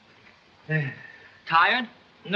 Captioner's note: sigh